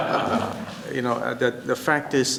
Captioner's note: laughter